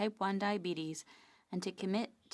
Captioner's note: speaking French